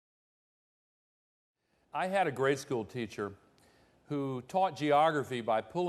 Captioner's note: voiceover